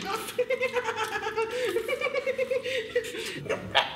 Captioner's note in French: rire aigu